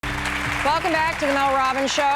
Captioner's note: audience applauds